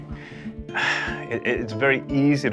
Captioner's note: sighs